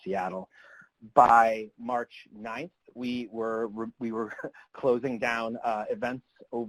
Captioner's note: chuckles